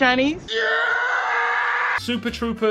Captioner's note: screaming